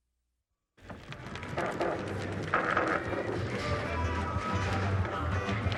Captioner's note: wheels rattling on floor